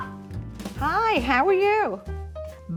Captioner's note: on the telephone